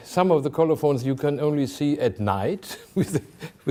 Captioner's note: chuckling